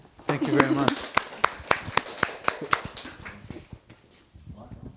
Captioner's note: applause